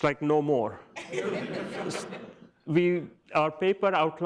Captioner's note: audience laughs